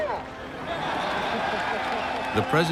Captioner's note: crowd cheers and laughs